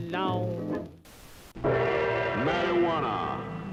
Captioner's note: static crackles